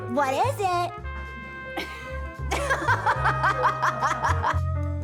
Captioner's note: laughs; molli laughs